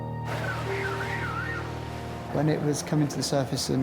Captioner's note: blowhole screeching